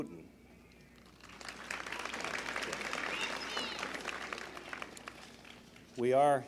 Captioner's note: applause